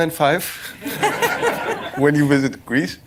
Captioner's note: laughter